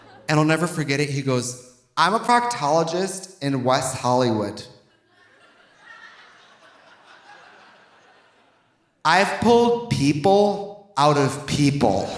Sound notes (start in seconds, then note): 0.0 audience laughing; 4.9 audience laughing